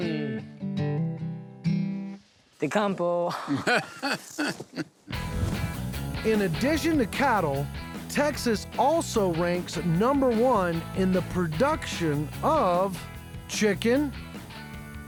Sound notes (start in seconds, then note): 3.3 laughing